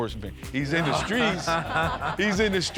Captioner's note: laughter